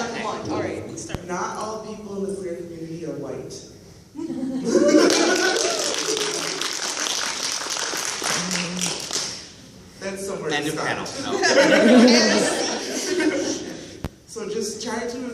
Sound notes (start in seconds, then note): 7.8 applause, laughter; 13.8 laughter